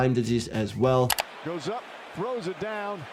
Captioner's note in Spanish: clics del ratón